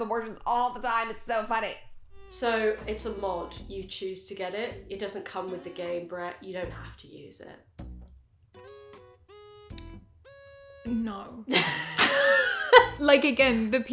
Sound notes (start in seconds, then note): 11.5 both laugh